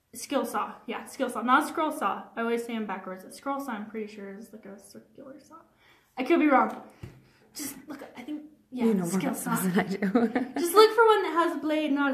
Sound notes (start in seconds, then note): 9.5 chuckles